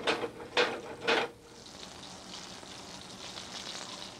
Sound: sizzling

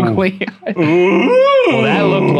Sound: groaning

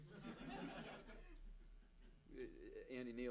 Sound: laughing

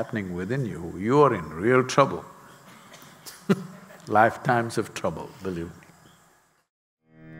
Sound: laughs

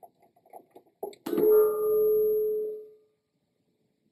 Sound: loud ping sound

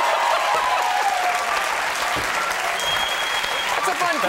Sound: audience cheers

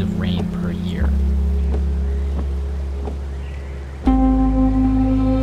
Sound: wipers thumping; calm music

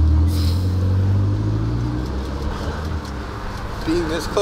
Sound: sniffs

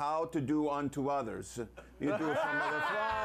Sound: laughter

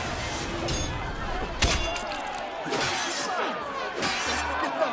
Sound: fighting sounds

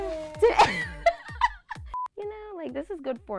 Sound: laughs

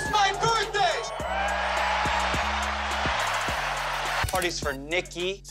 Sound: crowd cheers

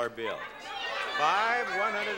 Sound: audience clamoring

